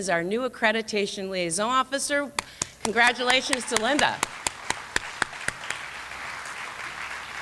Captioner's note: applause